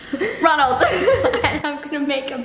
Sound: both laugh

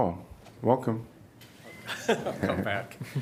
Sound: laughter

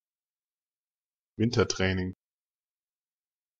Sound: fast Pronunciation

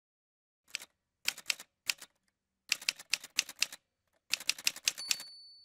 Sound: typewriter sounds

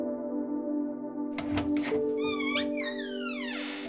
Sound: eerie door opening sound

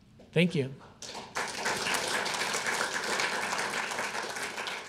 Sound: audience clapping

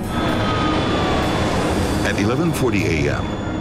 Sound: plane whooshing

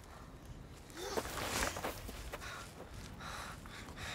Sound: gasping

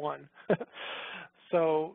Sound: chuckles

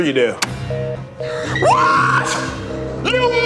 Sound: phone beeping

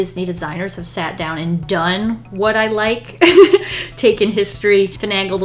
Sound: laughs

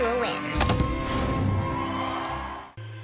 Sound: cheers

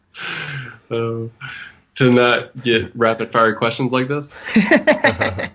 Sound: laughs

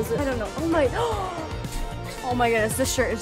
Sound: gasp

